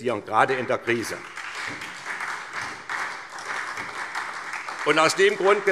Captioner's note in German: Beifall SPD